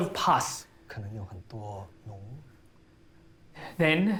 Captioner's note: Calvin speaking in foreign language